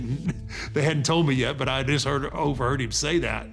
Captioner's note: laughing